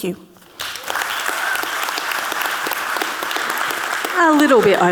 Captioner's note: audience clapping